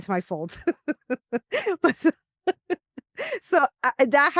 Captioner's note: laughs